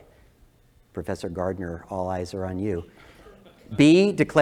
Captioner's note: laugh